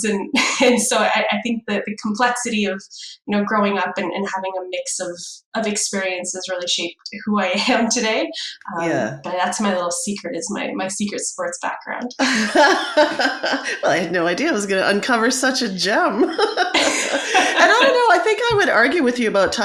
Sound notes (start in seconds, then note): 12.2 laugh